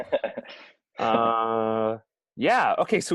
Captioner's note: laughing